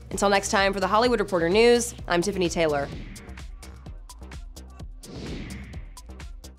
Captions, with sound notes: Until next time for the Hollywood Reporter news, I'm Tiffany Taylor. (loud whoosh) (upbeat music)